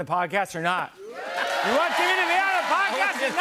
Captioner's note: cheers and applause